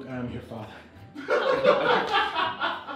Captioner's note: laughter